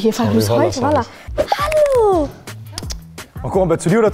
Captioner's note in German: Auffordernde Laute